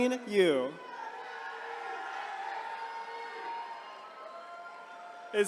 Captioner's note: attendees cheering